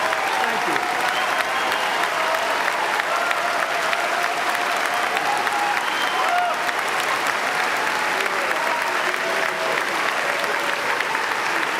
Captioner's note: applause